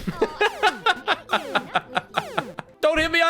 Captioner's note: laughs